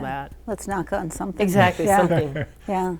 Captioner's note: laughter